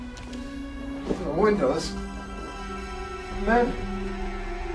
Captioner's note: talking in sleep